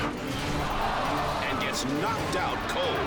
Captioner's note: crowd shouting